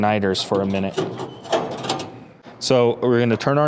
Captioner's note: pieces clanking